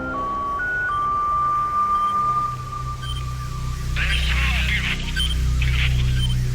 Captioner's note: soundbite of beeping